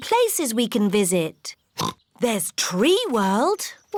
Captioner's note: oinks